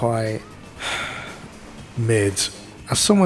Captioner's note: sigh